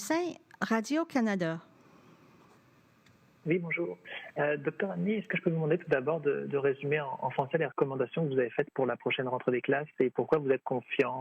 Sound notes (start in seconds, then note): 2.7 speaking French